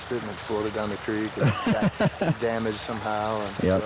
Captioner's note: man laughing